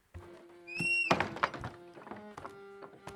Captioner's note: door opens and closes; violin music